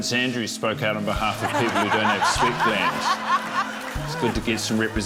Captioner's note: laughter